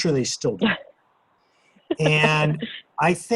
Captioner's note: laughs